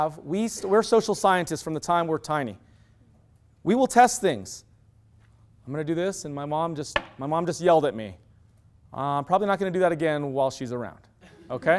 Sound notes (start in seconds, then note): 6.9 bang; 11.2 laughter